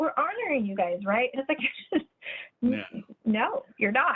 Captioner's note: laughs